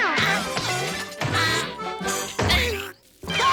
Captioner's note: groaning; screaming